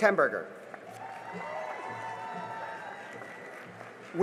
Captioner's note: cheering and applause